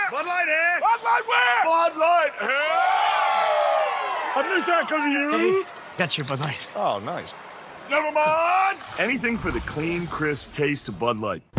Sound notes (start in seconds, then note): 2.9 crowd celebrates